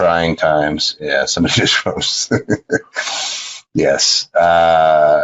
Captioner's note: laughs